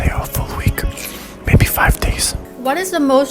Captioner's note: loud whispers; ambient cucumber crunching